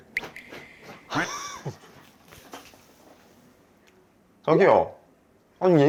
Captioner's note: Vero's sudden scratching session